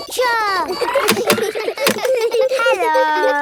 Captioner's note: kids giggling; laughs